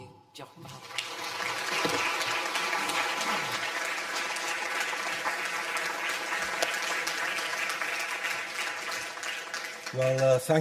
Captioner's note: audience applause